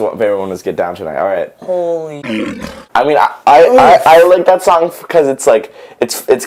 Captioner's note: lion roar